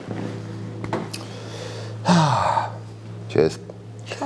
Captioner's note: sigh